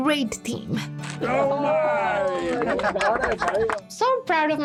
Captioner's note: cheering, clapping